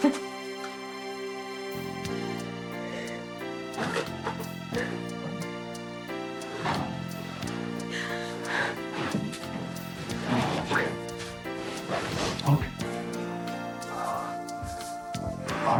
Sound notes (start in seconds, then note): 0.0 both laughing; 1.4 gentle music; 4.9 Margaret crying; 7.7 gentle music; 14.0 gentle music